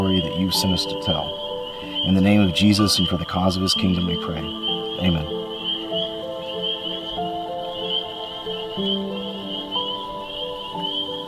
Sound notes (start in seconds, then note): 6.1 frogs peeping; 8.4 relaxing music